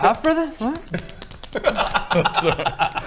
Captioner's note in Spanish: bofetadas